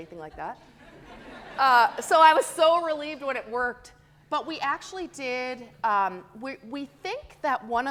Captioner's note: audience laughing